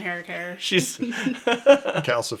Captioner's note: laughs